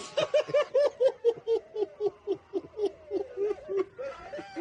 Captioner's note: cracking up laughing